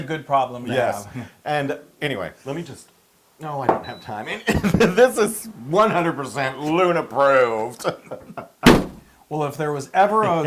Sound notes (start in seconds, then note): 4.2 laugh